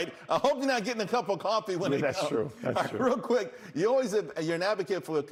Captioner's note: laughter